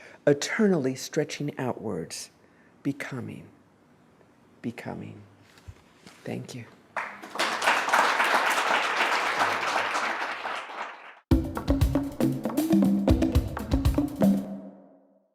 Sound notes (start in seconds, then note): 6.9 applause; 11.3 bongo drumming